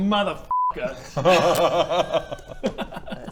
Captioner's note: betrayed laughter